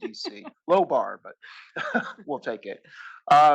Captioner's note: laugh